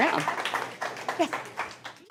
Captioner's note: applause